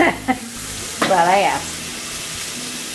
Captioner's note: laughs